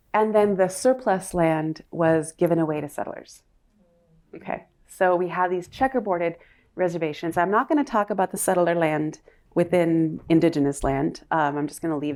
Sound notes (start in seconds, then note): none